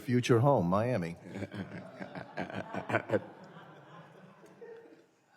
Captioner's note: laughter